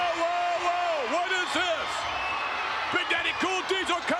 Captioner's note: spectators cheering